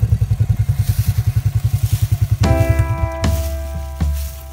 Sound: engine whirring

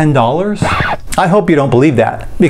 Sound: record scratching

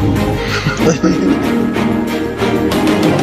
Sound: light laughter

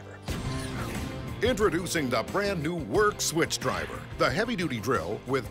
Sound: voiceover

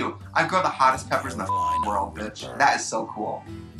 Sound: beep

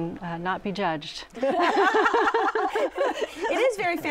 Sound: laughter

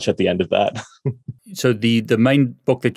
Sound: laughs

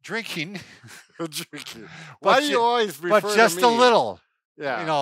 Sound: chuckles

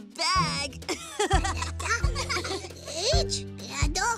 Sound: laughter

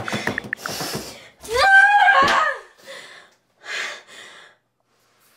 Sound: typing aggressively on phone and crying; frustrated scream

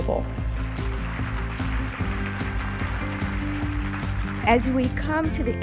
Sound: applauds

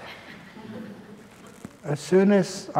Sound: laughter

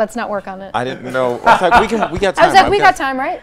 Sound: laughs

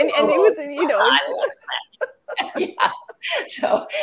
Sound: chuckling

